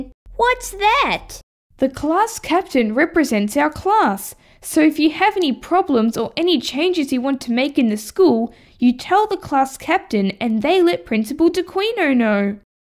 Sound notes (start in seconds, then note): none